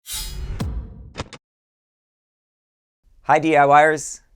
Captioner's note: metallic sound effect